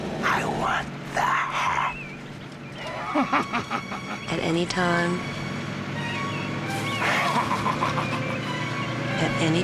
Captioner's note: laughing